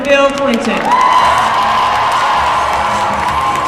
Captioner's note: applause